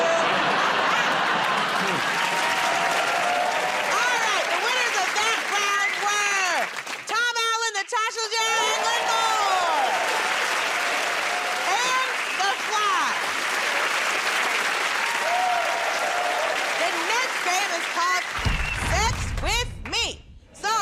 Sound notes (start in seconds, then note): 0.0 cheers and applause; 9.2 cheers and applause; 13.3 cheers and applause